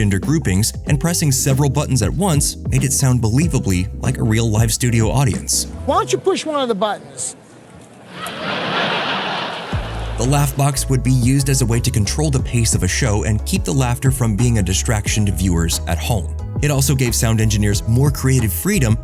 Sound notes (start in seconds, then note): 7.9 laughter